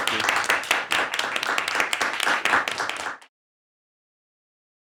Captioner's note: applause